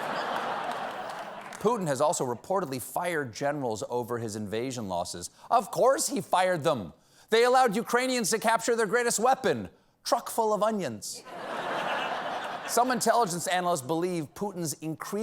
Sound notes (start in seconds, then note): 11.2 laughter